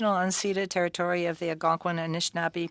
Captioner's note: speaking French